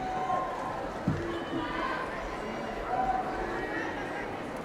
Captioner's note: people murmuring